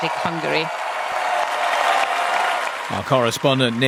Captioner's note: crowd cheering